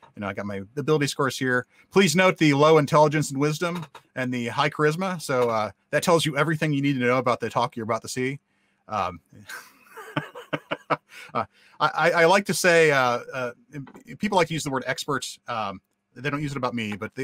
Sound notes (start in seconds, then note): 9.4 guy laughs